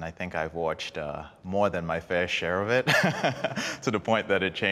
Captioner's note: laughing